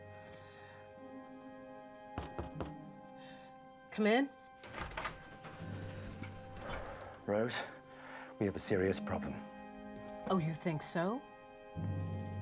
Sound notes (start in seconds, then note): 2.2 knocks on door